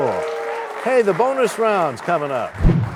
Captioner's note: cheers and applause